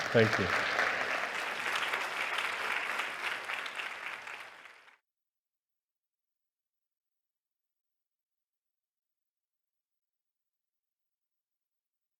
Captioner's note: applause